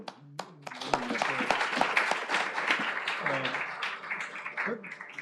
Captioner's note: applause